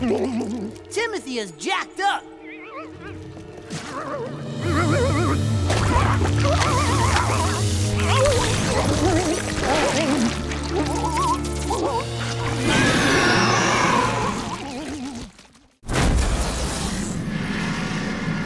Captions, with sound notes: Timothy is jacked up. [groaning] [groaning] [screeching]